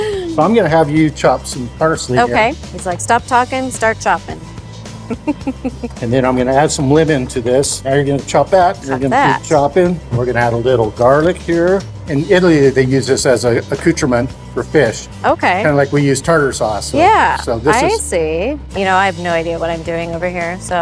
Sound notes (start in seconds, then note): 0.0 laughing; 5.0 laughing